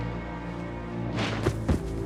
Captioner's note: Kari thudding